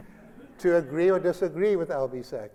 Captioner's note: laughter